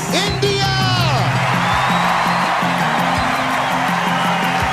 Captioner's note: audience cheering